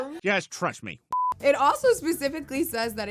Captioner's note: screen beeps